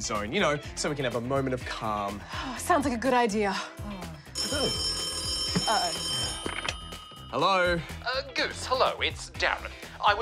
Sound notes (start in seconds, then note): 4.0 sighs; 4.3 phone jangles loudly